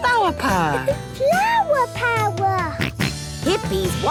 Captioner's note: George snorts